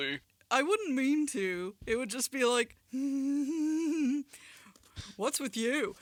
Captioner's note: happy sounds